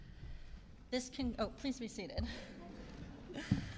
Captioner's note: laughter